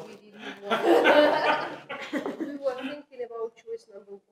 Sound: laughter

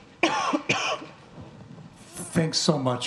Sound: female host coughing

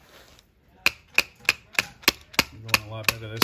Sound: screwdriver thudding

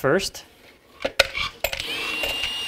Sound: drill whirring; screws clinking

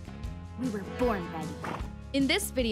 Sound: horse snorts

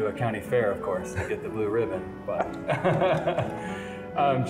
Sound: laughs

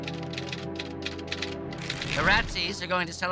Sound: somber music; typewriter clicking

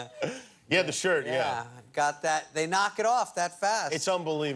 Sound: laughter

